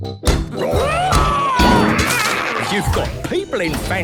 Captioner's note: all roaring